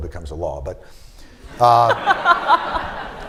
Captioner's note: laughter